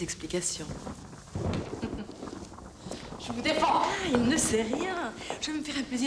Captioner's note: Isabelle laughing